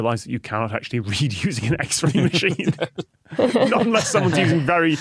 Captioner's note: group chuckling